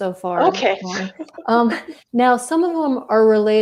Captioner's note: laughs